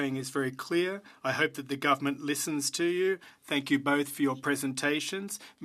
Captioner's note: speaking French